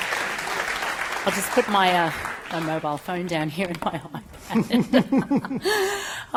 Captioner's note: chuckles